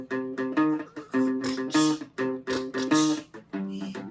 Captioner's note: beatboxing